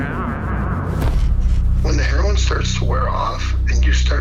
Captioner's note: thud